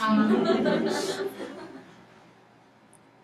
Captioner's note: laughing